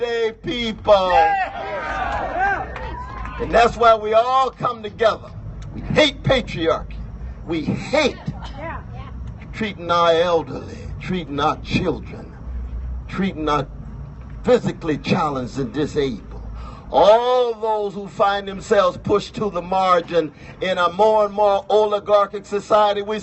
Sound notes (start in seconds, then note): 1.0 cheers